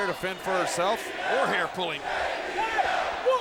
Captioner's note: spectators cheering